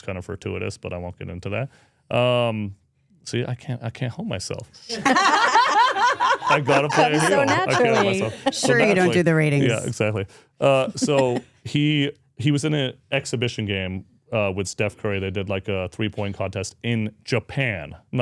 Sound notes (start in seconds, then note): 4.9 speakers laugh; 10.7 speaker chuckles